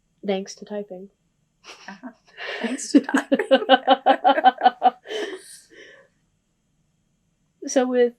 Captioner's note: laughter